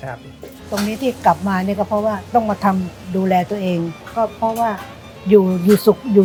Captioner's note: speaking Thai